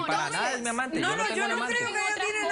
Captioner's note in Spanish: Hablan al unísono